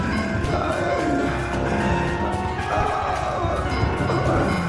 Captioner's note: Cooper groaning